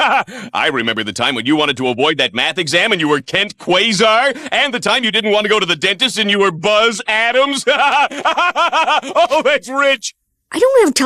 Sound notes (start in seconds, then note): 7.2 laughing